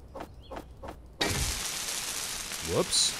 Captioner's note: sizzling commences